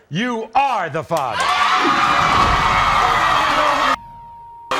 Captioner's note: audience roars